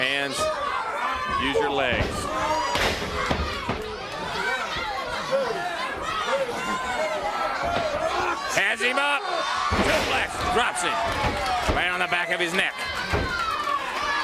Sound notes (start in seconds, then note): 0.0 crowd chatter; 4.7 crowd chatter